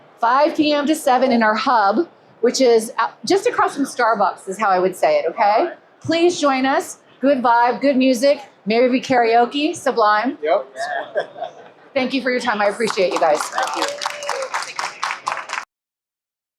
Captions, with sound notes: - 5:00 PM to 07:00 in our hub, which is just across from Starbucks, is how I would say it, okay? Please join us. Good vibe. Good music. Maybe be karaoke. Sublime. - Yep. (laughs) - Thank you for your time. I appreciate you guys. - Thank you. (audience claps)